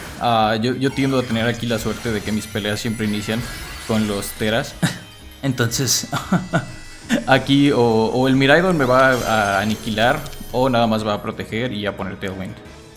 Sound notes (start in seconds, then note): 6.0 laughs in Spanish